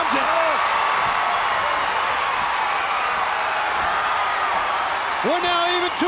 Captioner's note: crowd cheering